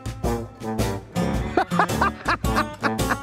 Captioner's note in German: Lautes Lachen